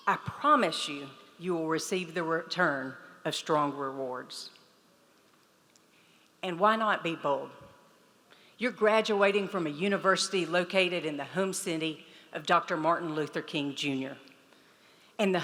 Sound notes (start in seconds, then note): none